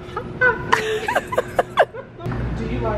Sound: both laughing

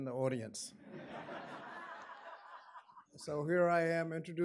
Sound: audience laughing

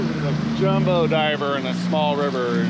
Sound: boat engine running

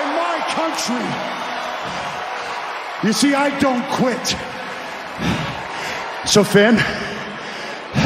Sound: cheers and applause

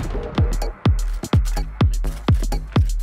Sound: gun firing; gun bangs; upbeat music

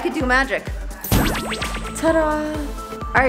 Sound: poof sound effect

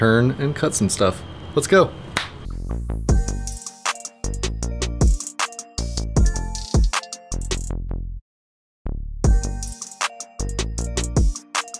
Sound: snap

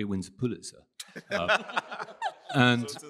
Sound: laughter

